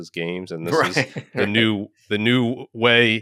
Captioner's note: laughing